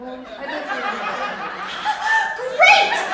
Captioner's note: crowd laughing